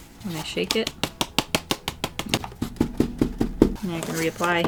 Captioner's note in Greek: Χτυπώντας το κουτί